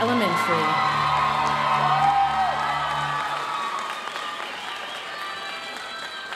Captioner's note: audience cheering and applauding; audience applauding